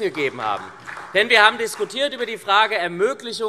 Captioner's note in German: Vereinzelter Beifall SPD und Freie Demokraten